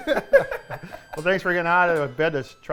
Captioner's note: laughter